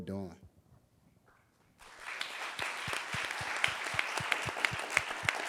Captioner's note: audience applauding